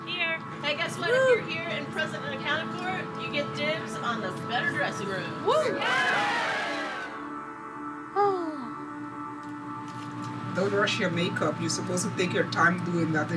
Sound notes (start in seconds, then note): 5.5 women cheer; 7.1 sighs